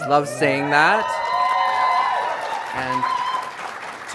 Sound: applause

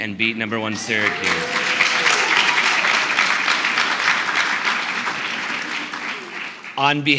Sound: applause and Cheers

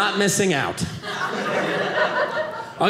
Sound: audience laughing

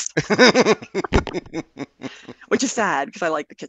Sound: laughter

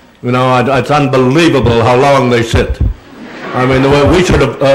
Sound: none

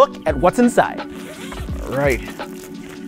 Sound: unzips bag

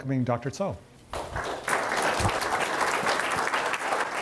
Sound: applause

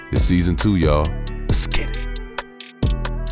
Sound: whispers

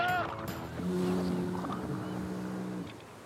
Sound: foghorn

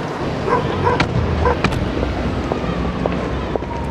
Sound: traffic whooshing; dog barking; siren wailing

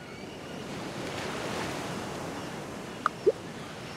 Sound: water sound

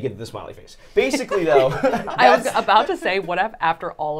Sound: laughing

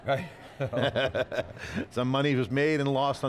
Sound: both laugh

